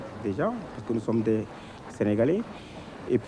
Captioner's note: french-speaking